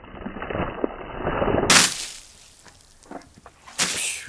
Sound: water splashing

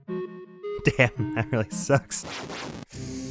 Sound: laughing unsympathetically

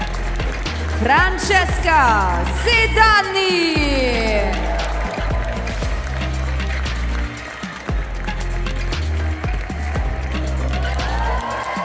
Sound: applause; applause

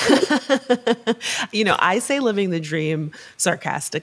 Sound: laughs

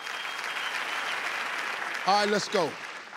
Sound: crowd applauding

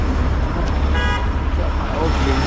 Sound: horn honking

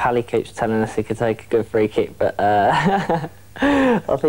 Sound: laughs

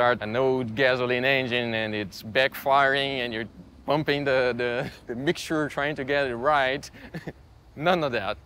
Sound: laughs

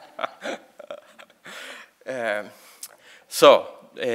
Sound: laughing

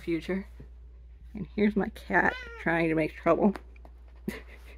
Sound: Willowstripe meows

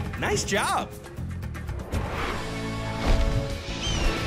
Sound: squawking

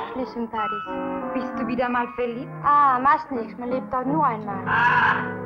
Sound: German language

